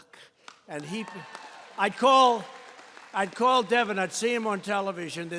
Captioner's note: applause